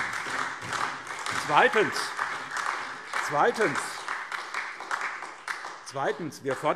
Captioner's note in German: Beifall SPD und DIE LINKE